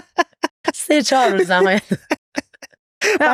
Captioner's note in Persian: خنده